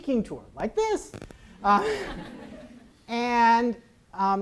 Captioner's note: audience laughs